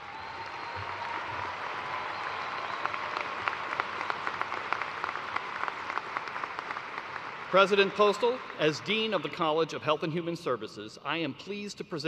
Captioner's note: cheers and applause